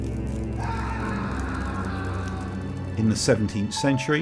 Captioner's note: screams